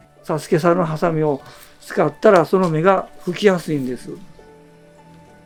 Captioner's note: speaking foreign language